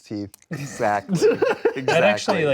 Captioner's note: host laughs